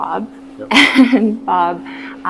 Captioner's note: laughs